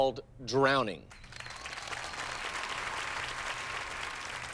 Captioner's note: cheers and applause